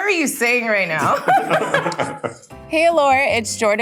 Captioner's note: everyone laughing